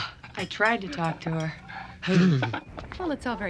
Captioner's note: both shiver